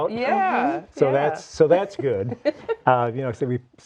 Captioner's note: laughing